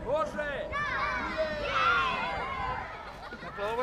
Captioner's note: all cheering